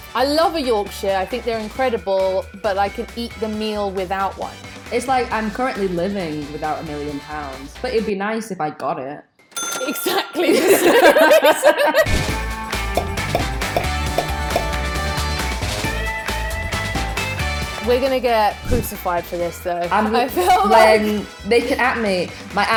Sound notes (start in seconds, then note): 9.5 cash register rings; 10.3 both laugh